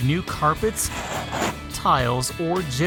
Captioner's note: cutting carpet